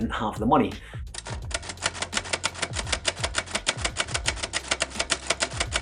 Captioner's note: typewriter keys clacking